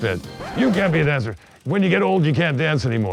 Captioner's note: record scratches